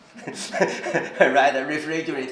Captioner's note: laughs